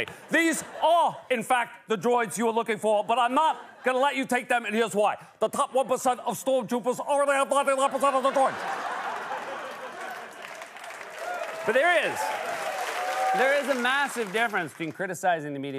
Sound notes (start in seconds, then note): 7.7 laughter and applause; 11.1 cheering